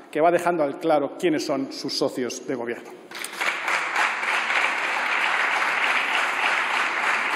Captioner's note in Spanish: Aplausos